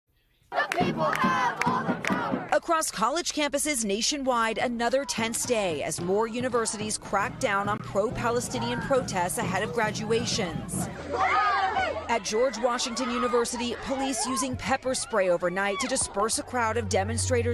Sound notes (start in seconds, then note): 4.8 crowd chanting; 7.6 crowd chanting